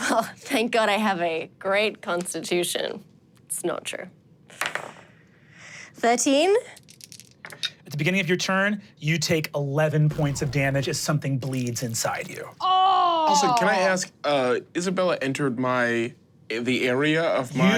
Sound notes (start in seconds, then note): 4.0 dice rolling; 6.8 dice rolling; 10.1 engine powering down; 12.6 groans loudly